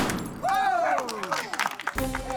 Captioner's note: cheering, applause; gunshot; clay pigeon explodes; cheering, applause